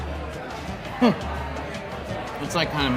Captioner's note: laughs